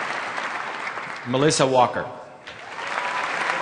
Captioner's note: applause; applause